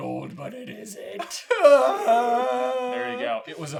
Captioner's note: whiney groans of agony